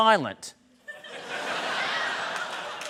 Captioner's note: laughter